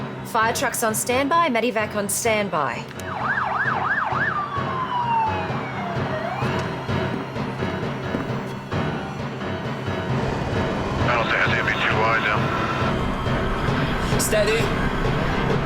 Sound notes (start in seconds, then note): 3.5 sirens wailing; 6.7 suspenseful music; 10.4 airplane engines whirring; 10.4 speaking in foreign language